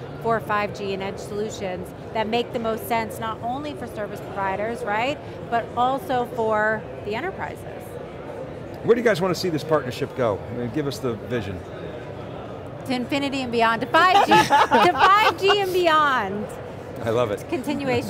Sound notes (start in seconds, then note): 14.0 laughing